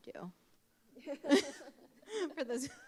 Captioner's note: laughing